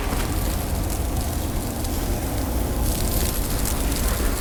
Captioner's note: flames crackling